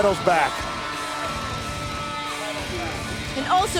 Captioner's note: crowd cheering